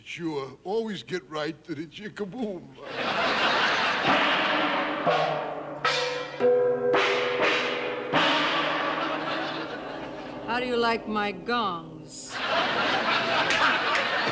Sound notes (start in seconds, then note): 3.6 bangs gongs; 12.2 audience laughing